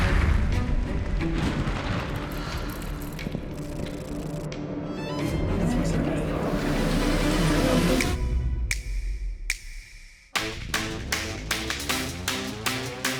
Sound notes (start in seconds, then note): 0.1 dramatic music; 4.4 orchestral music; 5.2 voices whispering; 7.0 tense music; 8.6 beat snapping; 10.3 upbeat music